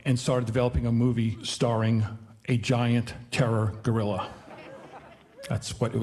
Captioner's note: audience laughing